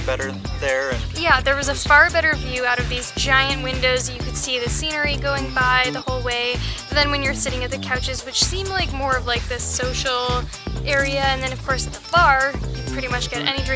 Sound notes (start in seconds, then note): none